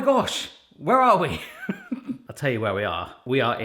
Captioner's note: chuckling